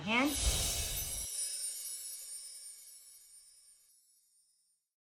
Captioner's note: chimes tinkling